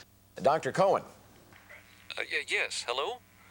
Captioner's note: over telephone